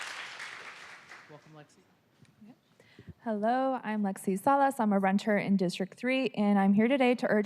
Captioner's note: applause